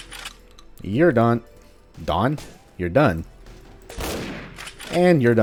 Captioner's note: bam